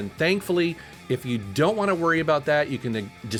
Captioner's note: none